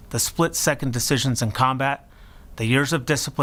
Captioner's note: none